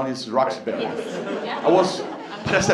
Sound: laughter

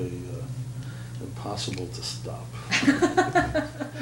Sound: laughter

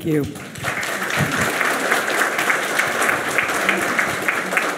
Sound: audience clapping

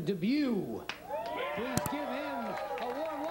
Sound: audience cheering

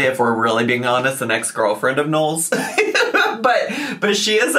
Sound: laughs

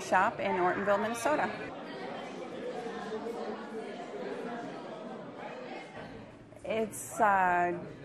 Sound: crowd noise

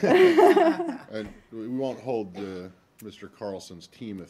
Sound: laughter

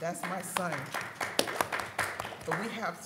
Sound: audience applauding

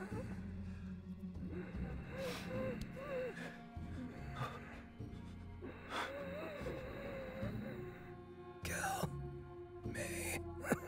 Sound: wheezing

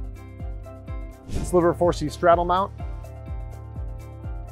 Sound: screen whooshing

